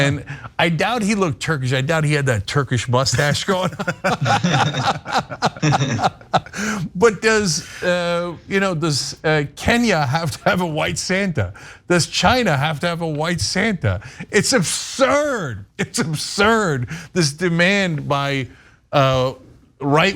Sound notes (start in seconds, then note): 3.5 laugh